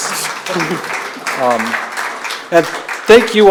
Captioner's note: audience applauds